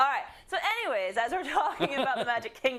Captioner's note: laugh